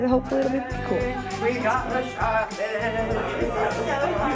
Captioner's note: in sing-song